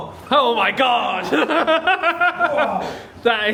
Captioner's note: laughs